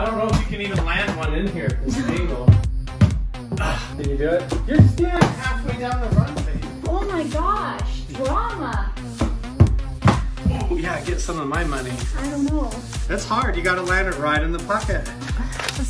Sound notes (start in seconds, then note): 3.5 grunts